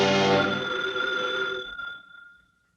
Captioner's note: phone rings